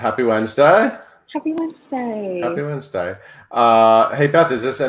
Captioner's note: none